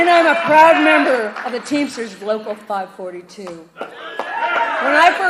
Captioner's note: applause